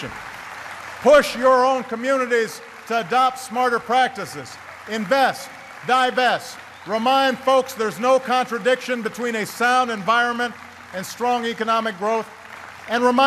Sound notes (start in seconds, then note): 6.5 applause